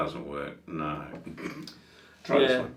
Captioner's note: snorting chuckle